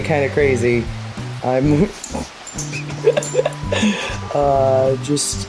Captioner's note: laughs